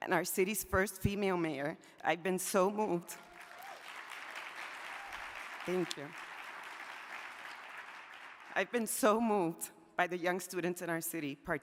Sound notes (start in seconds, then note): 3.2 audience applauding